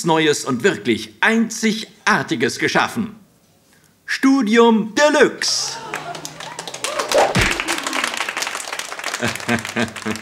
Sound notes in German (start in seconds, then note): 5.5 begeisterter Applaus; 9.0 lacht